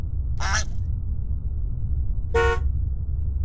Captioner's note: hooter honks; swan squawks; hooter honks